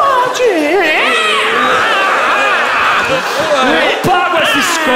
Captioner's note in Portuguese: grunhidos